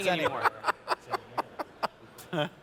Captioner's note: laughs